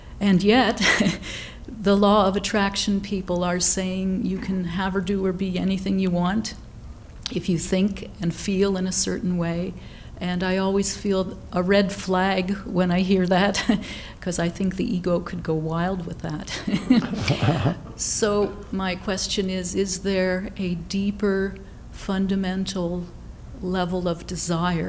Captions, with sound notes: And yet, the law of attraction people are saying, you can have or do or be anything you want if you think and feel in a certain way. And I always feel a red flag when I hear that, 'cause I think the ego could go wild with that. (chuckles) So my question is, is there a deeper fundamental level of desire,